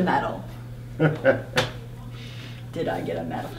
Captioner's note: laughing